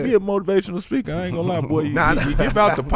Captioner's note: laughing